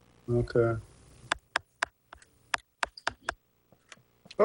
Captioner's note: typing